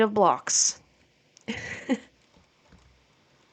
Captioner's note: laughs